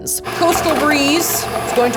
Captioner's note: mixer whirling